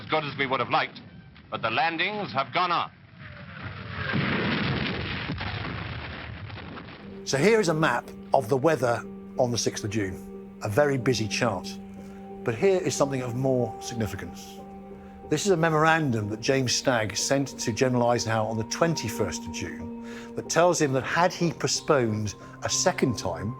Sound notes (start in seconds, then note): 3.5 explosions